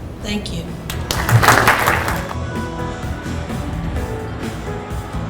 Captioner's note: audience applauding